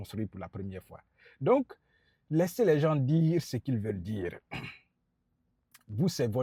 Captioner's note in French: raclement de gorge